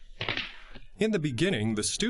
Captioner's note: hand smacking